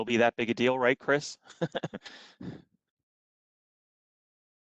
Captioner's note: laughter